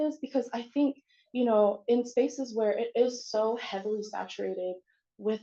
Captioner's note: none